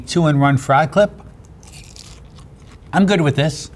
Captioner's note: crunching and chewing